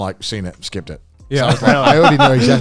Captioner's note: laughing